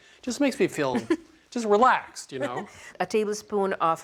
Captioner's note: laughs